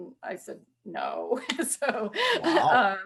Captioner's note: laughs